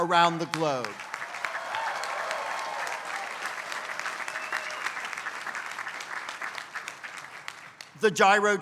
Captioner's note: applause